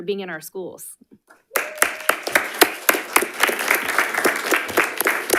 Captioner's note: audience clapping